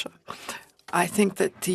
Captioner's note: speaking FRENCH